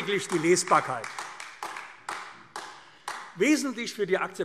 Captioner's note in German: Beifall AfD